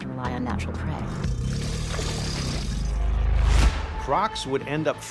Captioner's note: crocodile growling